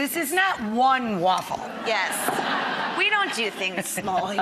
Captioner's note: laughter